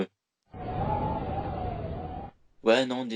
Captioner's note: wind